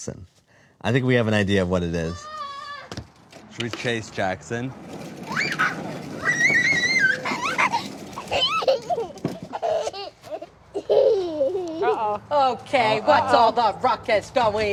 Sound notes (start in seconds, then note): 4.5 screaming; 6.5 laughing